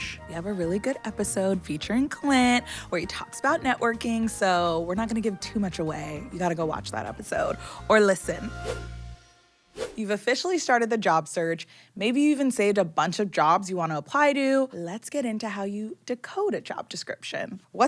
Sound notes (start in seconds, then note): 8.4 air whooshing; 8.9 bright upbeat music